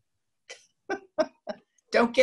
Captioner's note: laughs